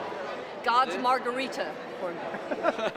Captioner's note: laughter